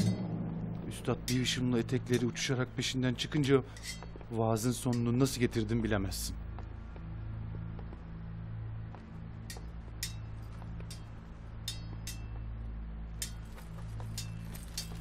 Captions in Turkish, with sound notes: Üstad bir hışımla etekleri uçuşarak peşinden çıkınca... ...vaazın sonunu nasıl getirdim bilemezsin. (Kılıç sesleri)